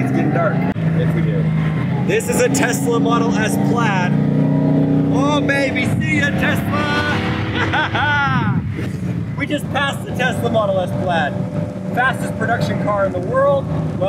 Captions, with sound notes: It's getting dark. This is a Tesla model S Plaid. Oh baby. See ya, Tesla! (laughing) We just passed the Tesla Model S Plaid. Fastest production car in the world.